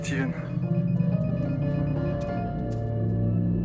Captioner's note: counter beeping rapidly